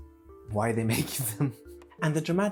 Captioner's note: giggle